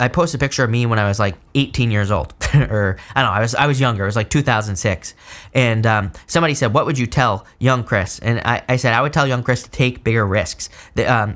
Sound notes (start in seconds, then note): 2.4 giggles